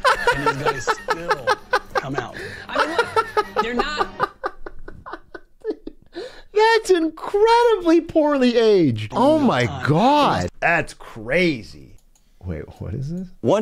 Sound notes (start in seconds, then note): 0.0 laughs